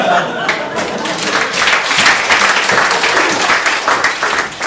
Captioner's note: audience laughs, applauds